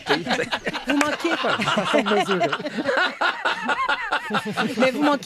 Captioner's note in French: rires